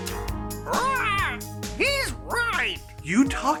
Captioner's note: צווחה